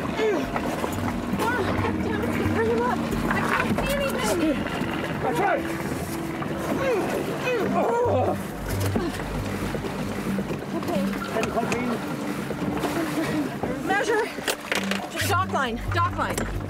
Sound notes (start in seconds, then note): 6.7 grunts